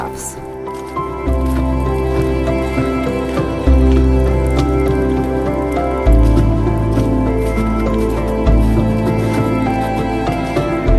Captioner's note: music and slushy sound from walking